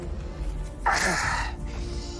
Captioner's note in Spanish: Quejido